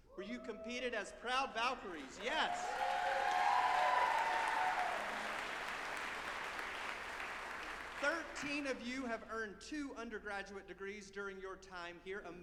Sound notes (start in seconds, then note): 3.4 group applauding and cheering